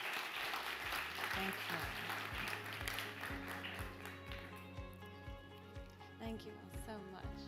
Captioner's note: audience applause